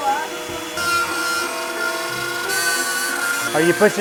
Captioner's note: Dremmel buzzing